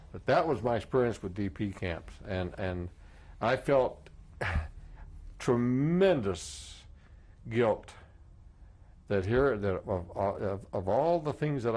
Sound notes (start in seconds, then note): 4.4 sighs